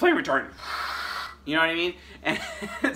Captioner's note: groaning